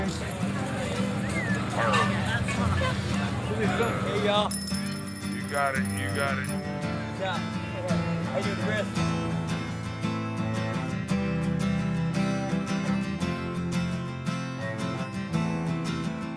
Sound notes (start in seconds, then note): 3.8 bicycle bell ringing